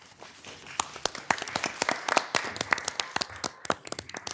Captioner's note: attendees applauding